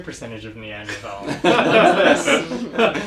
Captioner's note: laugh